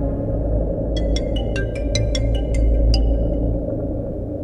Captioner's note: Phone ringing